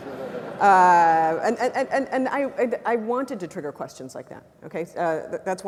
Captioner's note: laugh